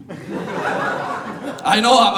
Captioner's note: audience laughing